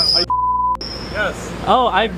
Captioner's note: beep